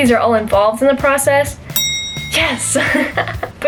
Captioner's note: bell ring